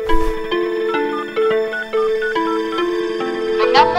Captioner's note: Dial tone